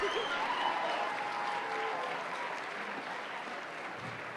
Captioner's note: applause